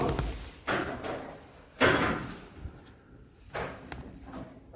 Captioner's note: chairs moving